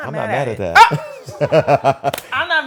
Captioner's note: laughter